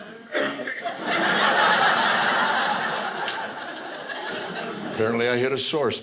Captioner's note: audience laughing